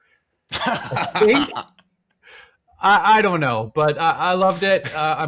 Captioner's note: laughing